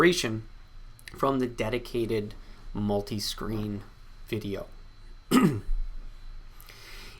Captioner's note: clears throat